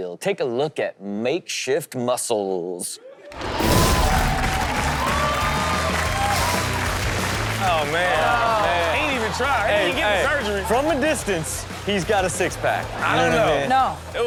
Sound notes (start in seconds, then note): 3.4 crowd applaud and cheer